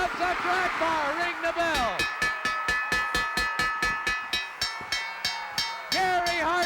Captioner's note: bell ringing